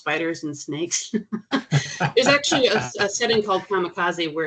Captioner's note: chuckling